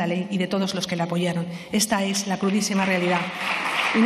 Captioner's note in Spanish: Aplausos